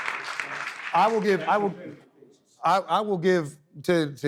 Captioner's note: audience clapping